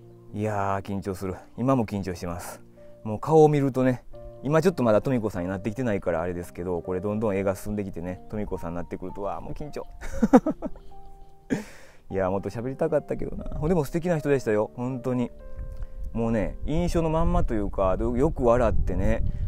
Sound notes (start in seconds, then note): 10.0 laughs